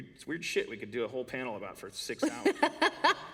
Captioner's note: laughter